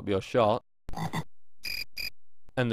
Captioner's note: frog croaks; cricket chirps